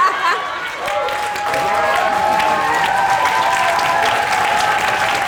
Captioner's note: audience laughing; cheering and clapping